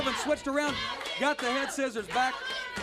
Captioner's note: crowd chatter